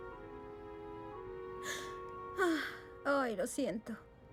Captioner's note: sigh